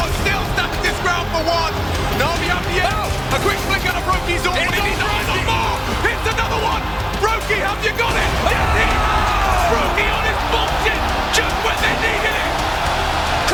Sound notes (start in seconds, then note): 2.6 gun firing; 5.4 crowd cheering; 8.6 crowd cheering